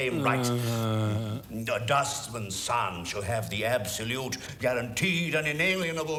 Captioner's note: groaning